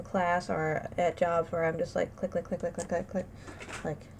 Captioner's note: click click click click click click